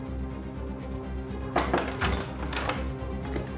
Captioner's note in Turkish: Kapı vuruluyor